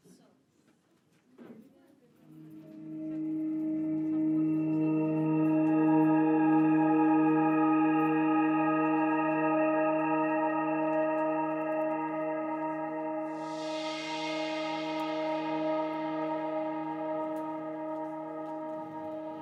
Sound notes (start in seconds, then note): 7.2 magic chimes